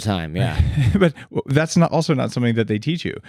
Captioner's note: chuckles